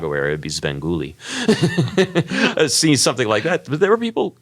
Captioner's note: laugh